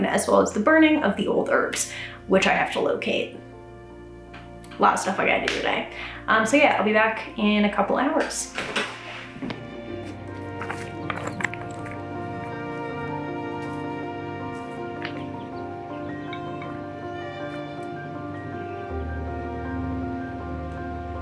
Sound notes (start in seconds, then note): 5.4 claps hands; 10.0 peaceful music; 10.4 stones clanking; 16.1 birds chirping